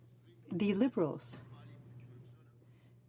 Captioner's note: speaking in french